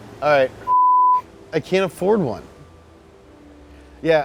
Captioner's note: beep